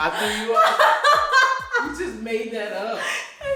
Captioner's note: laughing